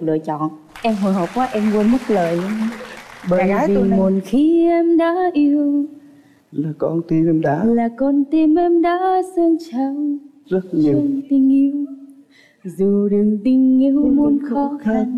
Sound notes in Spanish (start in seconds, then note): 2.9 Aplaudir